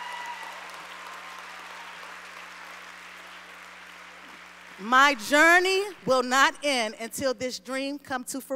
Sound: applause

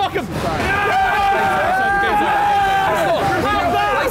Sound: all cheering

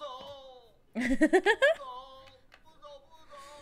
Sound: laughs

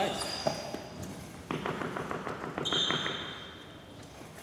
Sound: hand tapping ground

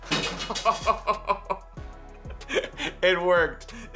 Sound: laughing

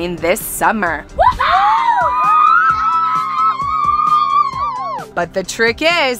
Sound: cheering excitedly

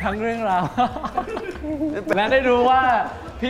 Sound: shyly speaking

